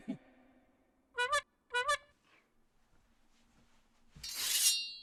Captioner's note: leprechaun laughing; horn honking; knife slicing